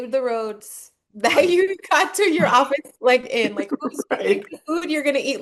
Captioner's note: laughing